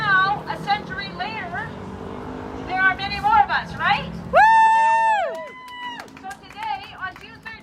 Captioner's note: cheering